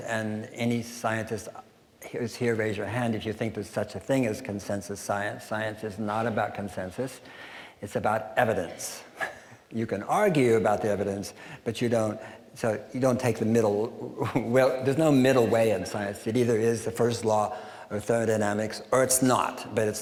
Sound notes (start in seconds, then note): 9.1 chuckling